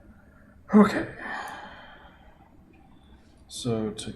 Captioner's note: sighing